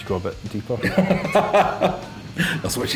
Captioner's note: laughing